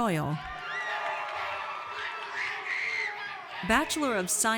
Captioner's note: audience cheers